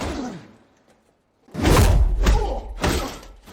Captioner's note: grunting